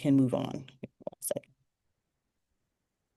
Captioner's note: speaks faintly